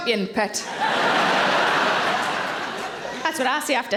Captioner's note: audience laughing